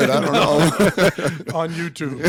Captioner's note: laugh